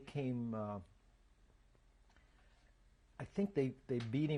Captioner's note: pauses for 3 seconds